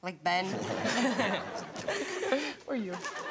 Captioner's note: all laugh